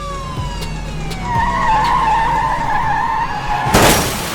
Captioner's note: tire screeching; car crashes